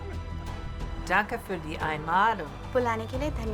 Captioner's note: speaking in German; speaking in Hindi